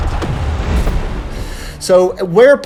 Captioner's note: explosions